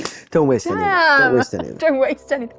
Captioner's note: chuckling